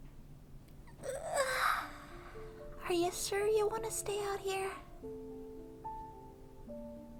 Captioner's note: yawns again